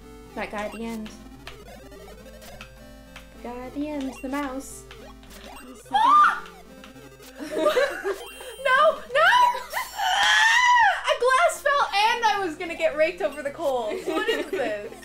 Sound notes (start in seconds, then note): 7.4 laughter